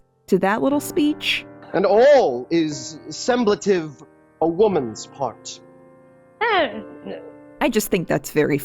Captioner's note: Viola mumbles nervously